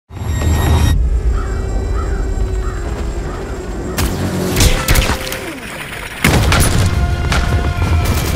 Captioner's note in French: Coups de fusil, bruits d’hélices de drone